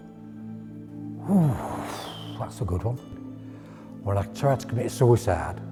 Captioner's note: exhales